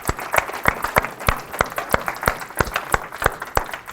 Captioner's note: applause